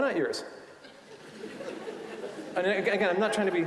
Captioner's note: audience laughing